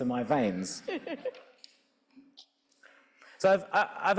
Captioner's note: audience laughing